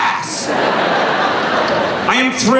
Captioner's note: laughing